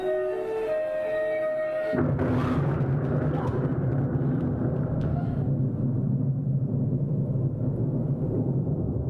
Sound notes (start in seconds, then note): 1.8 thunder